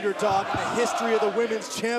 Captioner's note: fans chanting